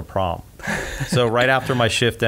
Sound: laughs

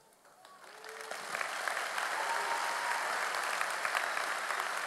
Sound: audience applauding

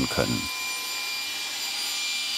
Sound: machine noise

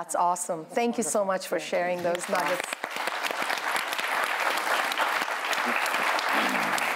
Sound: applause

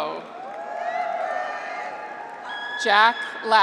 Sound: graduates cheer

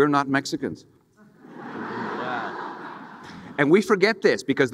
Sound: audience laughing

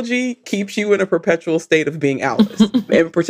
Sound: laughs

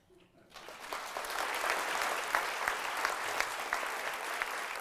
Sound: applause

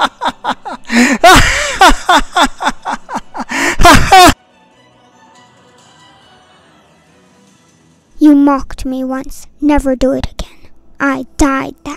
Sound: laughter

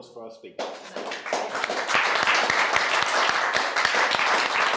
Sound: audience applauding

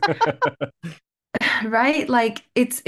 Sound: laughter

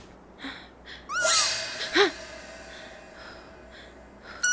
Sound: squeak

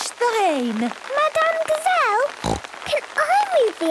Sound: snorting

